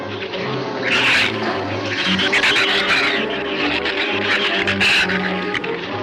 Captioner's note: shrews snarl and chatter